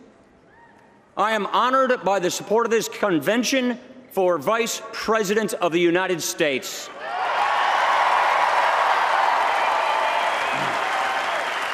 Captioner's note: cheers